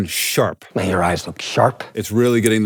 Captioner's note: movie dialogue plays